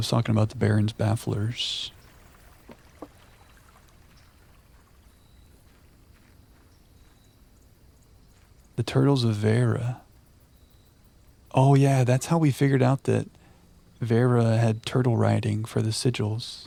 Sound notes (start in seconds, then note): 1.5 water lapping